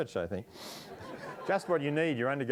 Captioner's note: audience laughing